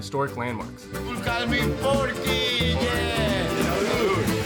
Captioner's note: speaking in foreign language